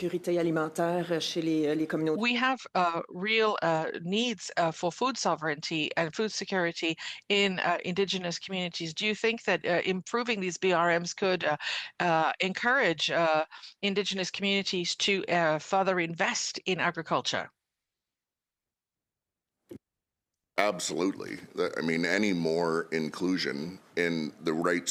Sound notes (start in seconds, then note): 2.9 speaking French